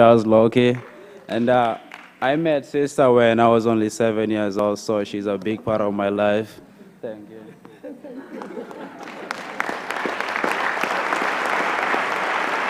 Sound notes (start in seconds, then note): 7.6 laughter; 10.1 applause